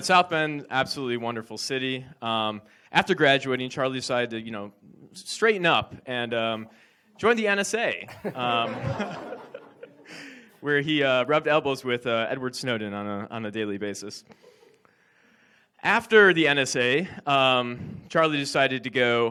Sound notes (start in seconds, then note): 8.0 audience laughs